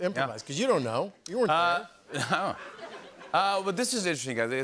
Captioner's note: laughter